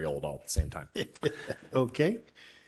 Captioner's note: laughter